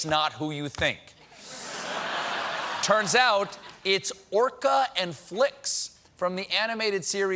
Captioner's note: laughter